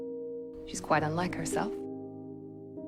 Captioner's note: voiceover